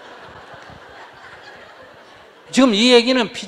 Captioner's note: audience Laughter